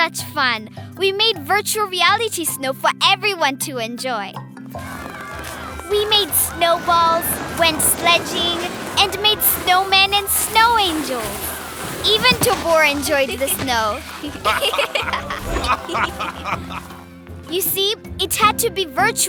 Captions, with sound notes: We made virtual reality snow for everyone to enjoy. (cheering) We made snowballs, went sledding, and made snowmen and snow angels! Even Tobor enjoyed the snow! (laughing) You see, it had to be virtual snow,